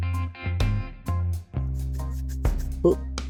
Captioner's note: audible chin scratching